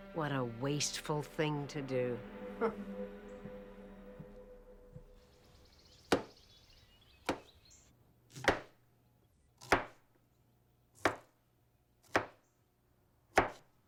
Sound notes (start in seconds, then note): 6.1 knife banging